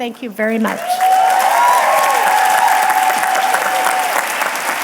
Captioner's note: audience clapping and cheering